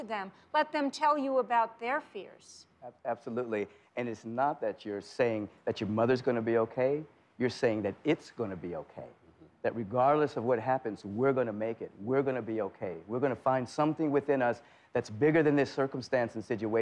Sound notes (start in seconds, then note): none